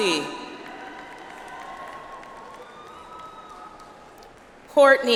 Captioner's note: audience applauds